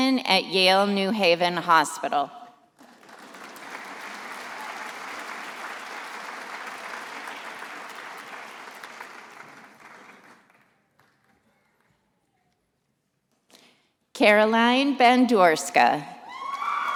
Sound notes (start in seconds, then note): 2.8 attendees applauding